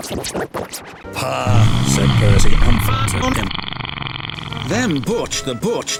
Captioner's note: farting